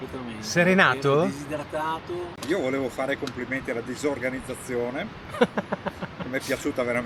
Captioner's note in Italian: risate